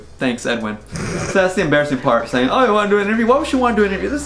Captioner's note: laughs